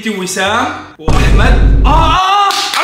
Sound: cinematic hit

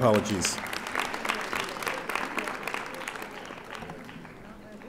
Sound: audience applauding

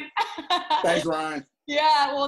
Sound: laughing

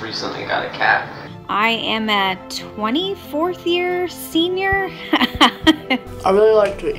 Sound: laughs

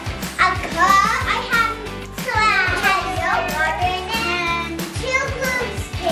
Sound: children chattering

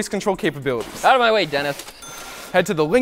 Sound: ding

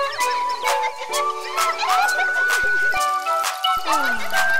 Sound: animals laughing; rain tinkling

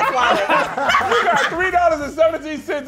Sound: group laughing

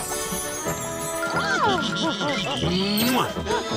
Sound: gasps, chuckles

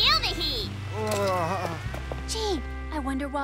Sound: compowder beeps

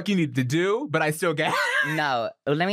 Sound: laughs

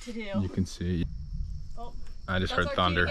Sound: thunder

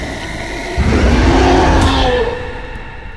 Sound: roars

